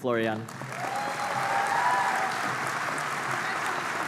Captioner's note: applause